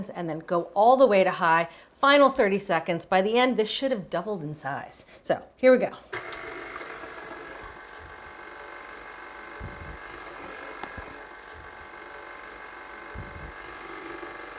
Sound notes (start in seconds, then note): 6.1 stand mixer whirring